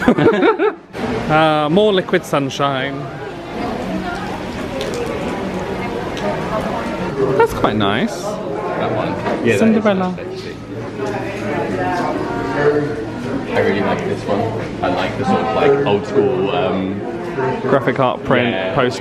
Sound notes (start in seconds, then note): 0.0 laughing; 4.0 rain spattering